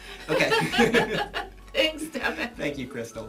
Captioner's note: laughs